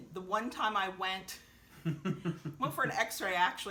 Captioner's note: both chuckling